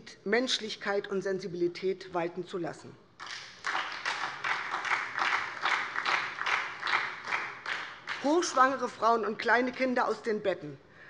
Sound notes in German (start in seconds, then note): 3.2 Beifall SPD